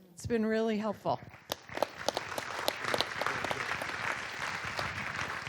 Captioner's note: audience applauding